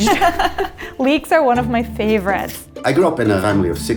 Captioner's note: laughs